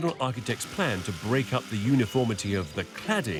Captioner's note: machine whirring